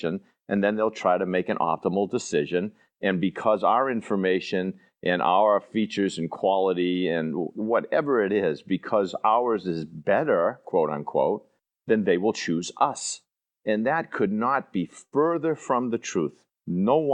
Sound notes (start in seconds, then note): none